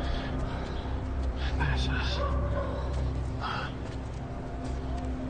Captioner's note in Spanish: Habla entre dientes